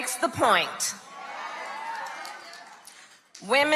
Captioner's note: crowd